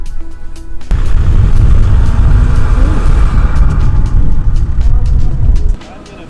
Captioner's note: engine